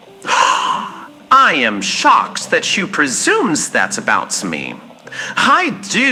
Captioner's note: gasp